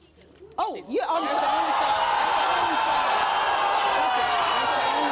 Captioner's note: audience yelling